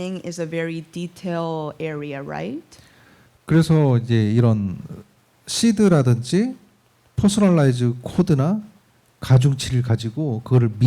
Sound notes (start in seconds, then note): 3.4 speaking korean